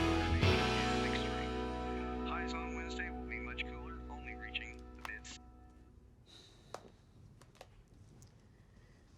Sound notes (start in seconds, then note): 4.6 remote clicks